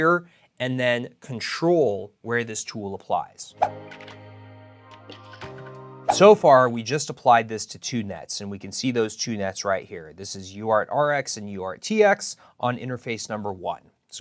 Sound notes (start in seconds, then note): 3.4 graphic pops